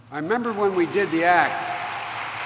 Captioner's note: applause